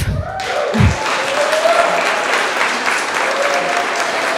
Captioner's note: audience applause